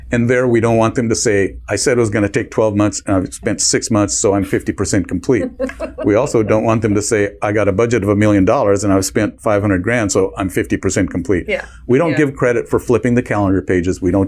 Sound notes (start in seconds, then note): 5.3 laugh